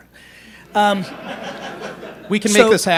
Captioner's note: laughter